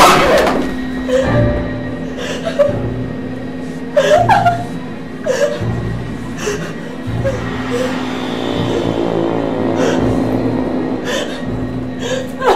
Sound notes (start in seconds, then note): 0.1 dramatic music; 3.6 Ciara sobbing; 7.1 ominous music; 9.8 Ciara panting